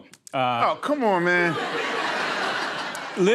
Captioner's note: laughter